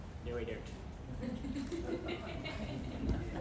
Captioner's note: crowd chuckles, followed by a single 'Woo'; pat